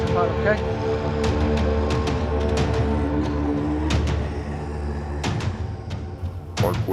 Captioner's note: chilling music continuing; clones snarling continuing